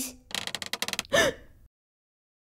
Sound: creak

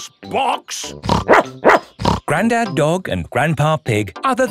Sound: snorts; barks

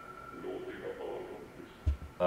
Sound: garbled demonic chanting

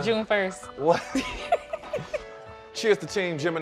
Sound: both chuckle

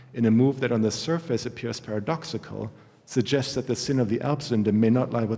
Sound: german

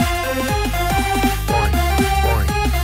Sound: SFX: "Boing. Boing."

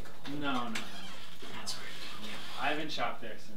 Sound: whispers

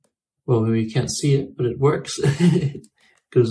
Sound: laughs

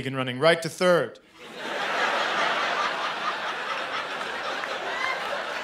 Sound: laughter

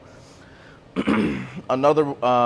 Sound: clears throat

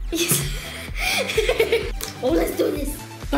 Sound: laughing

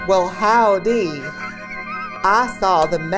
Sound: laughs

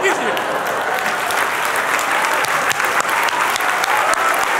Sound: applause

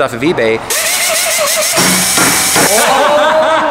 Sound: drilling and hammering

